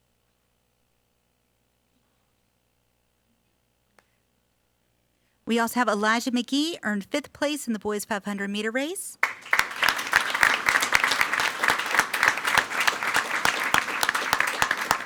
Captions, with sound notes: We also have Elijah McGee, earned fifth place in the boys 500 meter race. (everyone applauding)